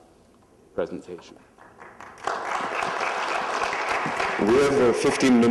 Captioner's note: applause